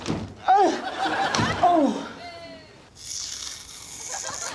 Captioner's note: grunting